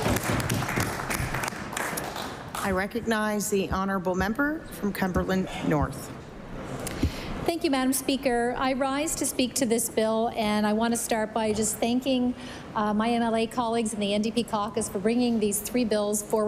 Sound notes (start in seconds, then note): 0.0 applause